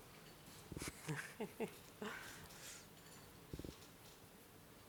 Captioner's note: chuckling